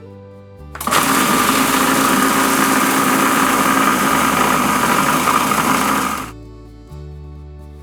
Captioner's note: blender whirs